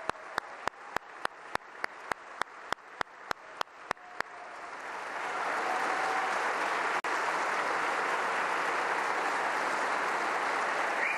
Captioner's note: applause